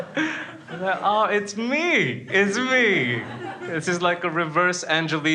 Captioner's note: laughs